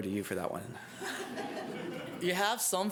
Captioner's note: laughter